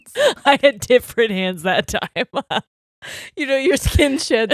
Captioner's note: both laughing; laughs